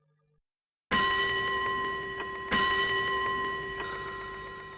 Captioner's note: clock chimes two